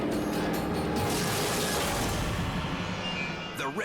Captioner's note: tail rips